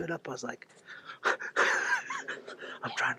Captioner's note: laughs